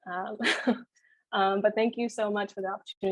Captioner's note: laughing